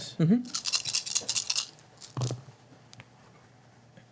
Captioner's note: dice rolling